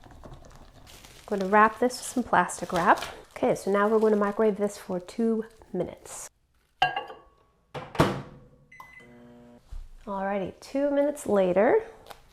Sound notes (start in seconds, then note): 6.9 dish clanks; 7.8 door shuts; 8.6 microwave beeps